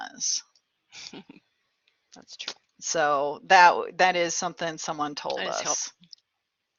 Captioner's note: laughter